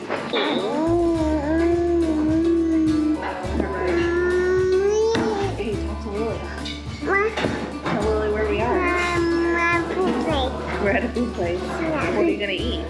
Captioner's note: baby cooing